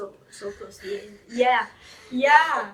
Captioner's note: breathes heavily